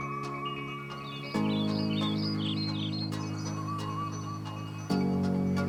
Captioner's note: birds chirping